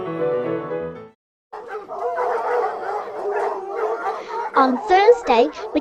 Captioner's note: barking